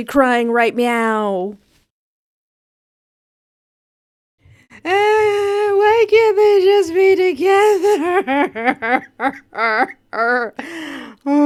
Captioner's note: ugly sobbing